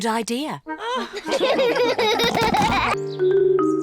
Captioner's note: all laugh